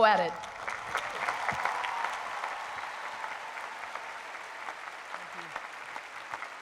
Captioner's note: crowd applauds